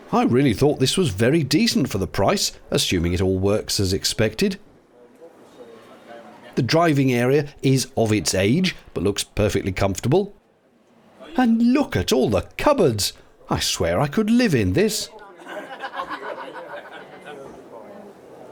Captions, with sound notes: I really thought this was very decent for the price, assuming it all works as expected. The driving area is "of its age" but looks perfectly comfortable. And look at all the cupboards! I swear I could live in this! (cackle from outside)